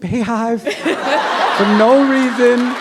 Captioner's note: laughter